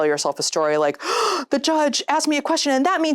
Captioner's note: gasps